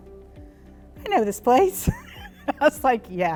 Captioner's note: laughs